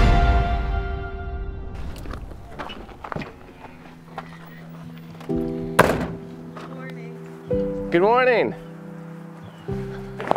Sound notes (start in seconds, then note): 1.7 footsteps on gravel crunching